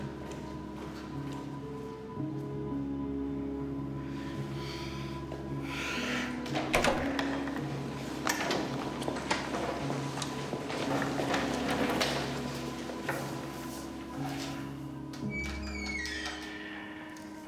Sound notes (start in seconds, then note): 6.5 opening sound; 10.6 footsteps; 15.1 creaking door